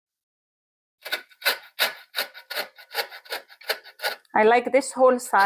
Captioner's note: grating sound